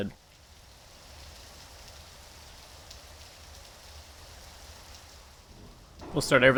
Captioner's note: audible Rain